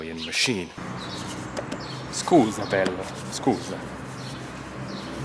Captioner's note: in Italian